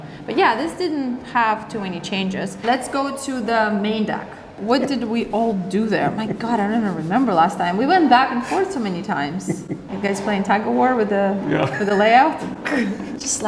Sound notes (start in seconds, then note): 9.4 chuckles